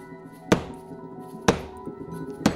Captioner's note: clattering